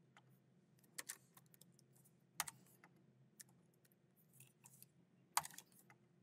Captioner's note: keyboard clacking continues